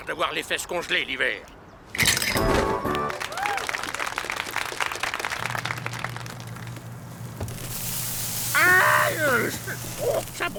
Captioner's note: applause